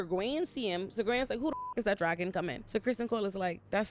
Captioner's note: beep